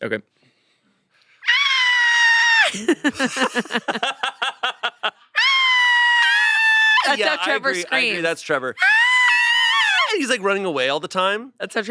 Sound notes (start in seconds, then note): 1.4 screams; 2.6 they laugh; 5.3 they scream; 8.8 they scream